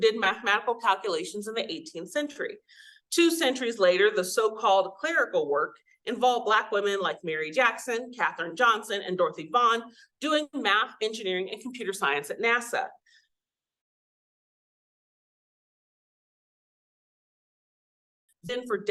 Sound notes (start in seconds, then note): 14.3 audio cuts out